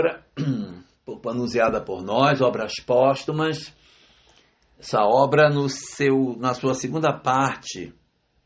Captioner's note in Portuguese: limpando a garganta